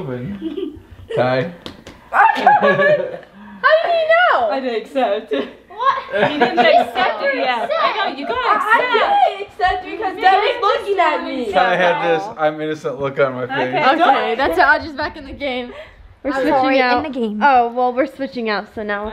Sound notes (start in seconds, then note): 1.6 patting; 2.3 laughs